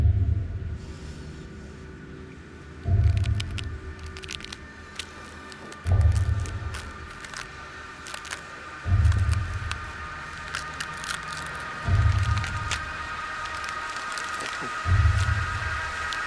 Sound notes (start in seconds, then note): 0.2 ominous music; 3.2 distant crackling; 3.2 suspenseful music